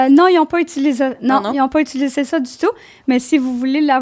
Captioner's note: in french